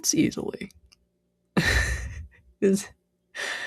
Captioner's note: laughs